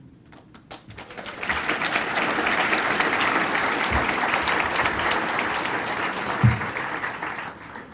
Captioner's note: applause